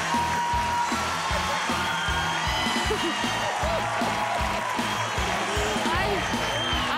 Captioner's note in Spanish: gritos y exclamaciones